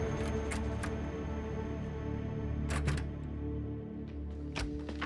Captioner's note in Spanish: sonido al abrir la puerta